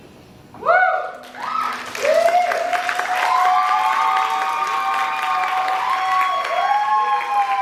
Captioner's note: cheering, applause